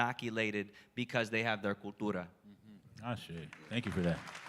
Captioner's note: spanish